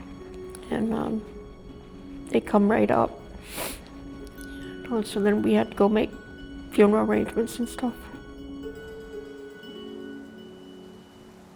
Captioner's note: sniffs